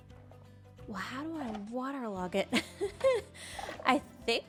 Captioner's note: laughs